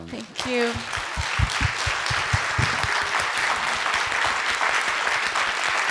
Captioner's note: audience applauding